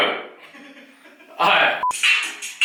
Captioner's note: laughing